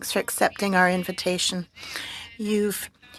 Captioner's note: speaking French